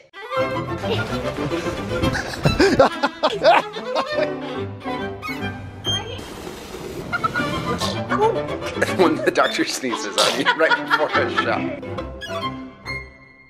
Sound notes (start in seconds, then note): 0.2 upbeat, orchestral music; 1.4 father laughing; 7.1 children laughing; 8.2 toddler sneezes; 9.7 laughs; 9.8 mother laughs